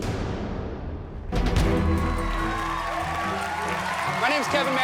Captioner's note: applause